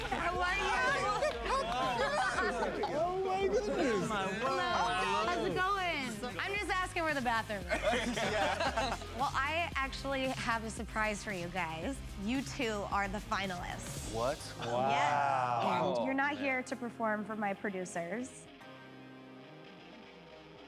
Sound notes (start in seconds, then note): 7.6 laughter